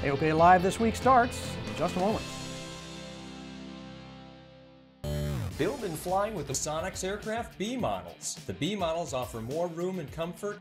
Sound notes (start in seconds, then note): 5.1 digital buzzing